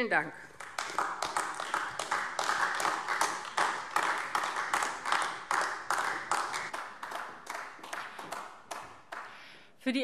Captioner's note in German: Beifall AfD